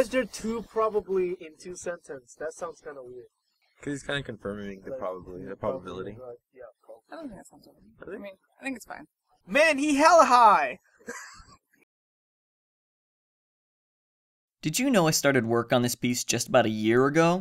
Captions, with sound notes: Why's there two probablies in two sentences? That sounds kinda weird. Cuz he's kinda confirming the probably- the probability. I don't think that sounds weird. I think it's fine. Man he hella high! *Laughs*